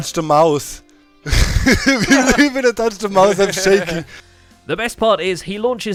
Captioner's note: laughs